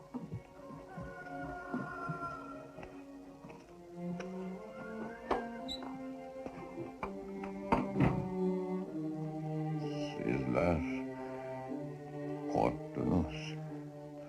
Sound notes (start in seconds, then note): 0.3 rooster crowing; 4.0 tense music